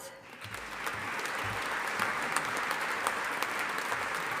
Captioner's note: audience applauding